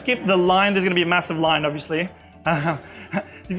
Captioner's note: laughing